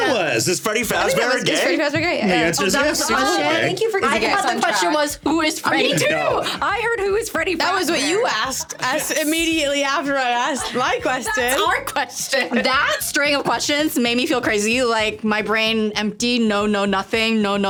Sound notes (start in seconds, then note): 10.5 laughing